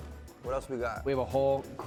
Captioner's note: none